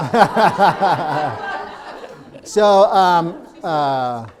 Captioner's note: audience laughing